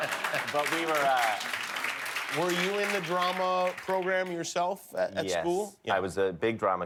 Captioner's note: laughter; applause